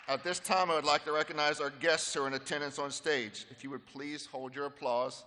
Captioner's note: applause